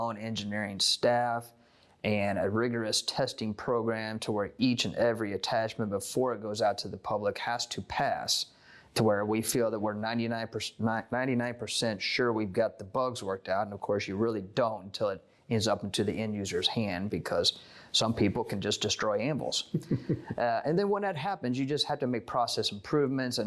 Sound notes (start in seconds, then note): 19.7 off camera laughter